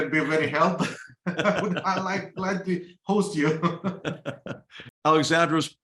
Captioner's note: laugh